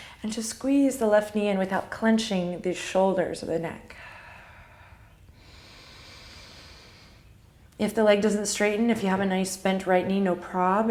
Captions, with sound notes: and just squeeze the left knee in without clenching the shoulders or the neck. (deep breathing) If the leg doesn't straighten, if you have a nice bent right knee, no prob.